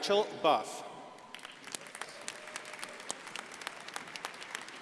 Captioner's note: crowd applauding